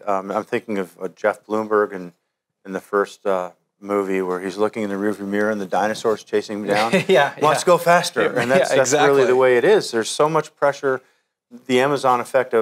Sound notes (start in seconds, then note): 6.6 laughs